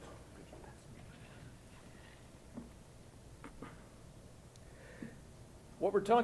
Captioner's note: whispers quietly